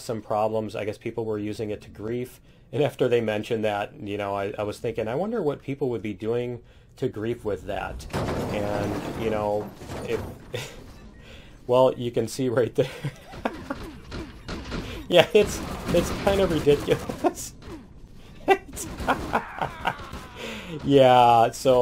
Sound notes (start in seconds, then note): 9.4 laughs; 13.5 alien gunshots; 18.1 laughs